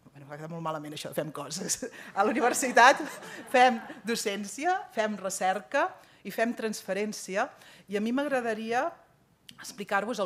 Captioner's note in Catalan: riures